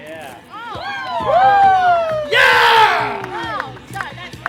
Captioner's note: crowd whoops